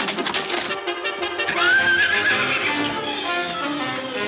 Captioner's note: horse neighing